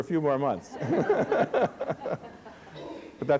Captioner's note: laughter